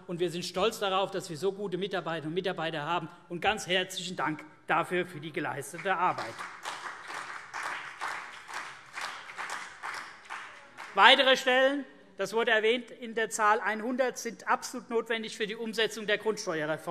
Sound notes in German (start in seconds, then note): 5.8 Vereinzelter Beifall CDU und BÜNDNIS 90/DIE GRÜNEN